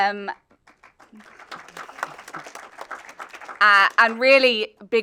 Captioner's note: audience applauding